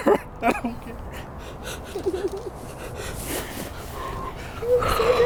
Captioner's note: laughing; crying